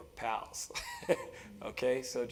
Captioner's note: laugh